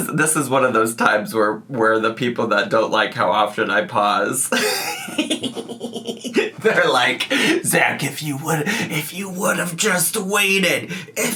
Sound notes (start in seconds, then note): 4.5 laughing